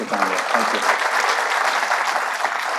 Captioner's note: audience clapping